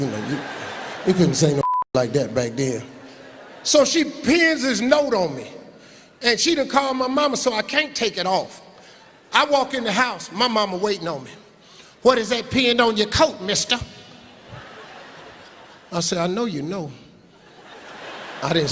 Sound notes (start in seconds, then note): 1.6 beeping; 3.1 laughing; 17.7 laughing